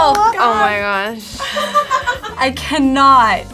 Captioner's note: laughs